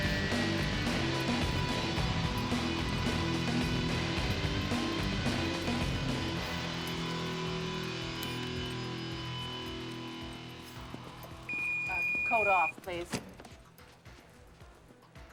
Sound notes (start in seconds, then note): 11.4 beeping